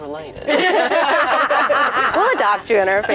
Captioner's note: laughing